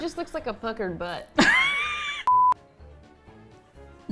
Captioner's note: laughs